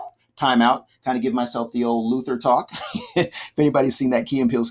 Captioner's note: laughs